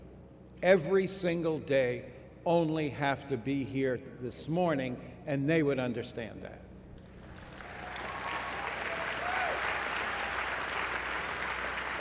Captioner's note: applause